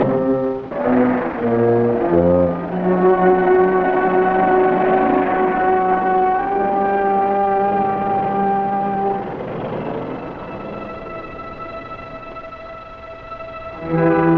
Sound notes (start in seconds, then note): 0.9 engine rumbling; 3.0 dramatic music; 7.9 engine rumbles; 10.4 suspenseful music